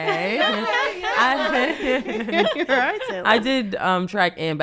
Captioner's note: panelist laugh